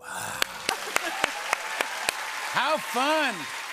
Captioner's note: cheers and applause